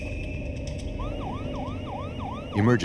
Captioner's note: sirens